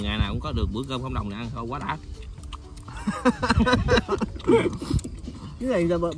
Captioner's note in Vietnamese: Tiếng cười